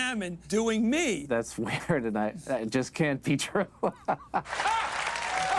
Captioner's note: laughs